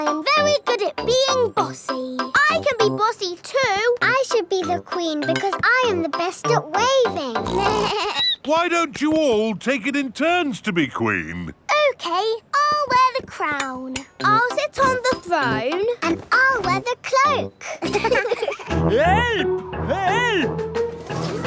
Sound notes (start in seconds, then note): 7.4 snorts; 7.4 bleats; 17.6 laughing